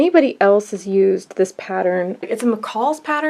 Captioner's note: none